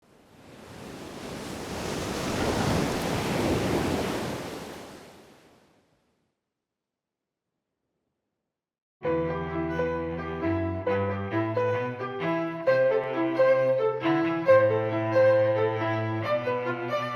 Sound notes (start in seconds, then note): 0.0 waves Crashing; 9.6 intro music playing